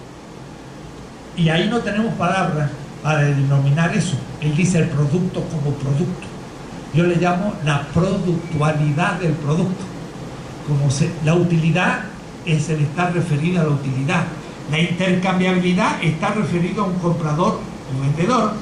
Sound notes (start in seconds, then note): 3.3 in spanish